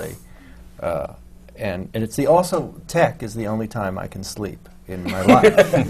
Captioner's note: laughter from the panel